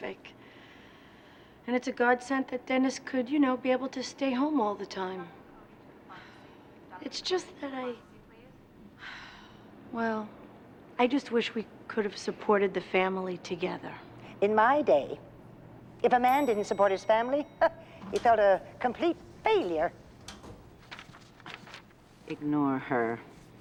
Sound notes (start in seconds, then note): 8.8 sighs; 17.6 scoffs